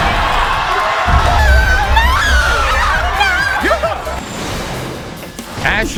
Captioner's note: audience cheers